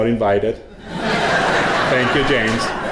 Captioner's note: audience laughing